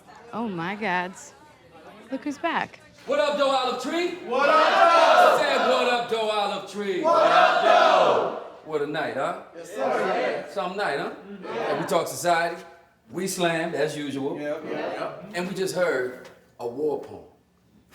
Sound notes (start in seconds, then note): 4.2 crowd; 7.0 crowd; 14.6 crowd